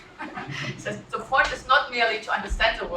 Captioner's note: laugh